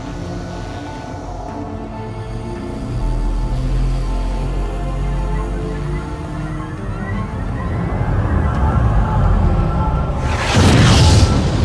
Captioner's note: ships ramping up warp engines